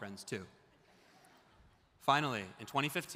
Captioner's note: audience laughs